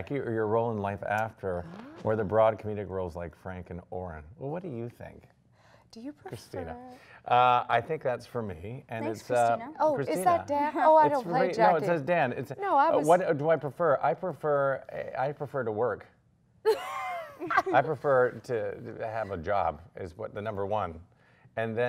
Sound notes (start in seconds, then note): 16.6 laughs